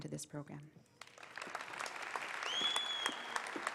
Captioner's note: applause